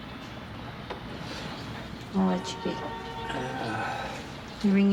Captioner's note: sighs